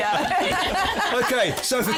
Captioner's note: laughter